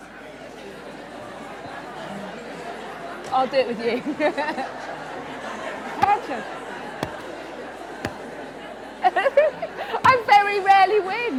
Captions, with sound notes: I will do it with you! (LAUGHS) Hedgehog. (LAUGHS) I very rarely win!